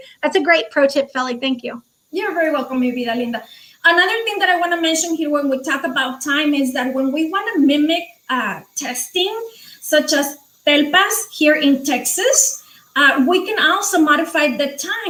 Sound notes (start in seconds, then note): 3.0 speaking foreign language